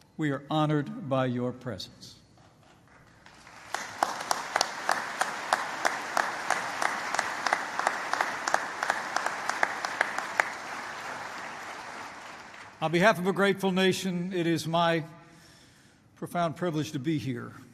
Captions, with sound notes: We are honored by your presence. (applause) On behalf of a grateful nation, it is my profound privilege to be here